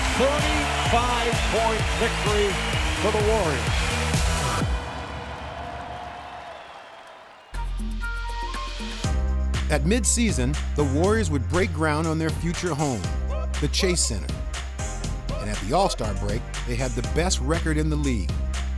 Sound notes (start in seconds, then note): 4.4 crowd cheering